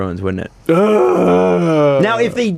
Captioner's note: dying whale noise